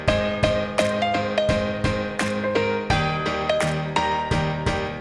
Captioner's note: applause